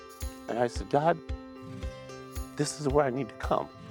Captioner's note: weeping